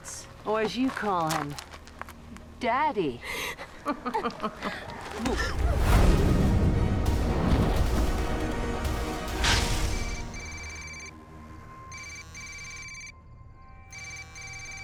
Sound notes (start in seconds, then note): 3.7 chuckles; 10.9 cellphone buzzes; 10.9 telephone rings